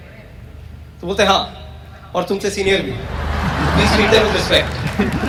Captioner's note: audience Laughs Hysterically and claps; audience Laughs and claps